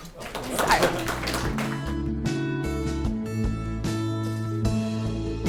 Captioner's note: audience applauses